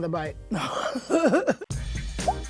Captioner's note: laughs; upbeat music